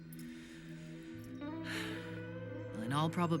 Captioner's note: major sighs deeply